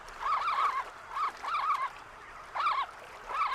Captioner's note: chitters